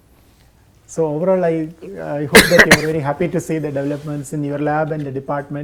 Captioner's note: coughs